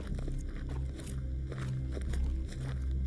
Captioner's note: none